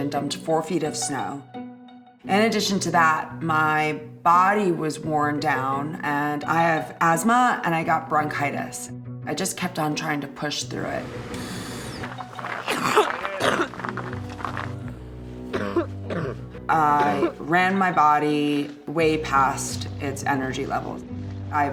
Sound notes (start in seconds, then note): 11.3 inhaling; 12.4 coughing; 15.5 coughing